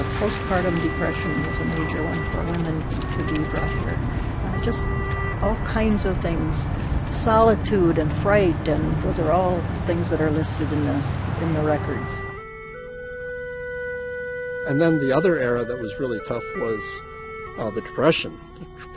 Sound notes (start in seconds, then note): 14.9 voiceover